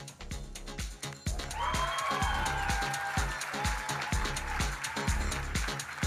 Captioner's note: audience cheering and applauding